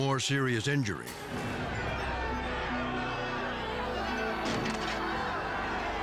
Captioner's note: fans shouting in foreign language